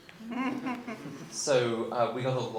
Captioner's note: audience laughing